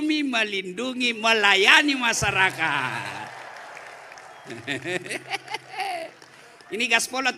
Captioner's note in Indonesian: tertawa